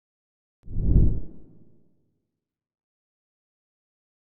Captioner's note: air whooshes